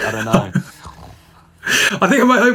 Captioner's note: man laughs